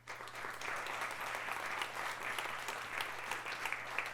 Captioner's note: audience clapping